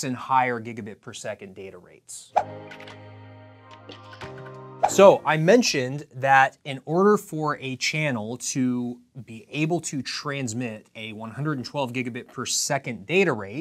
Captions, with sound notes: and higher gigabit per second data rates. (air whooshes) (soft electronic music) So I mentioned that in order for a channel to be able to transmit a 112 gigabit per second data rate